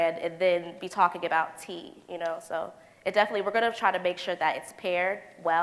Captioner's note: none